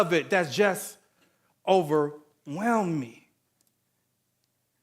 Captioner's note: none